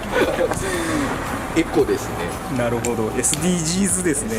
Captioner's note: laughs